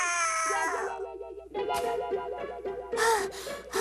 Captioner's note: panting